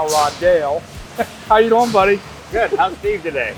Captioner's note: chuckling